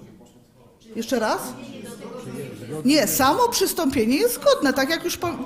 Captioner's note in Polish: głosy z sali